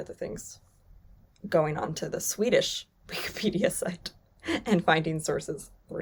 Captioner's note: chuckles